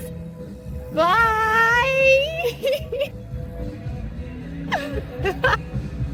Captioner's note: laughs